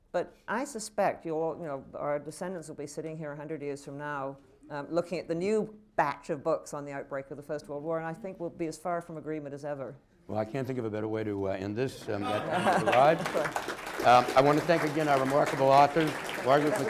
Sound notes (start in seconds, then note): 14.7 laughter; 15.7 applause